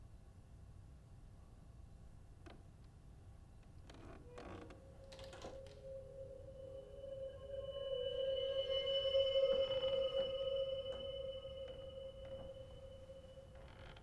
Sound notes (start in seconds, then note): 5.0 creak, latch closes